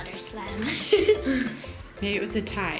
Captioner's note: laughter